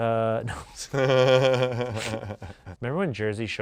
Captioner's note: laughs